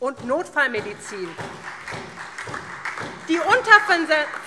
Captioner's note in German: Beifall SPD